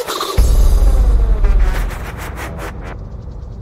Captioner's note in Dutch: explosion